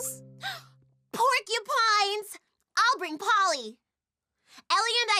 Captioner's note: gasps